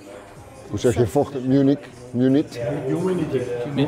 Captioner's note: speaking foreign language